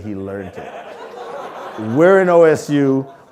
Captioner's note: audience laughing